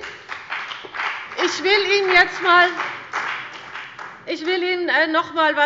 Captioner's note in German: Beifall bei dem BÜNDNIS 90/DIE GRÜNEN und der CDU